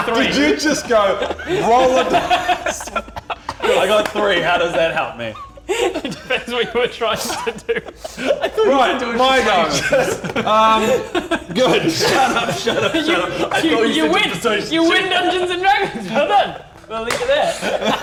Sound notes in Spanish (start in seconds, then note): 6.2 Riendo